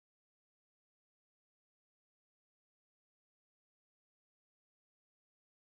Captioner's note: none